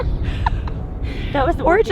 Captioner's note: people laughing